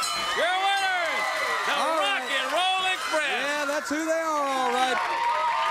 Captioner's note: bell ringing